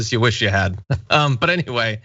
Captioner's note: laugh